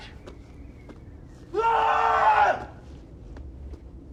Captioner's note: shouts